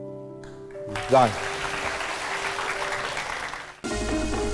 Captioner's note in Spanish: Aplaudir